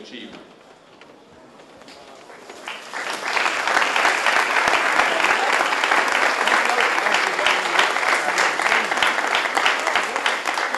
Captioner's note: applause